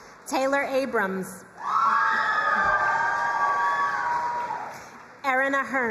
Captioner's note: crowd cheering and applauding